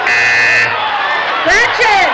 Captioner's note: buzzing